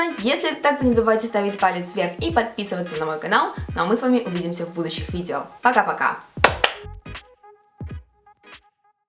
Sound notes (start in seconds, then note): 6.4 clapps